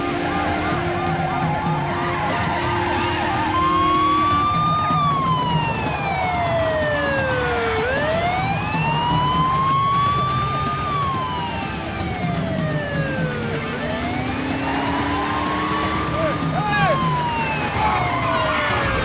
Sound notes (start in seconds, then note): 0.2 tires screeching; 3.8 sirens wailing; 14.7 tires screeching